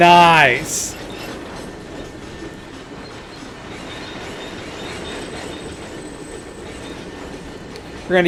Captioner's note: train whistle